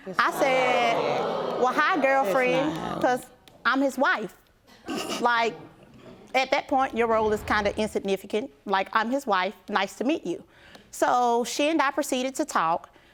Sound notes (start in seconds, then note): 4.5 snickers